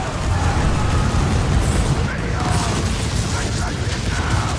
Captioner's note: cannons firing